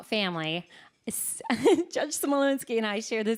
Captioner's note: chuckling